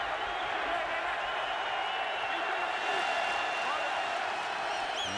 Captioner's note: crowd cheering